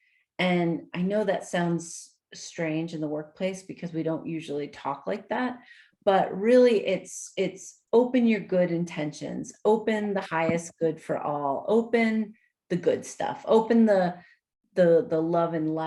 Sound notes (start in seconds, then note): none